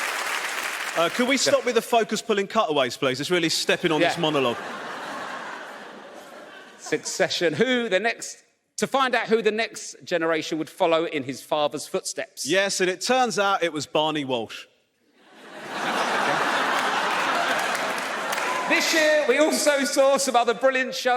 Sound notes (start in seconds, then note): 15.2 audience laughs